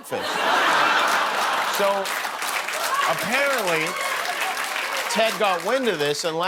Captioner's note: laughter